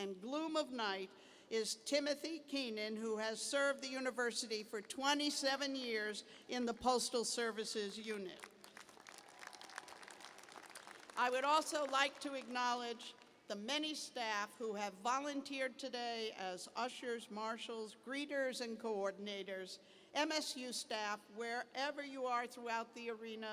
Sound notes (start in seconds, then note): 8.3 applause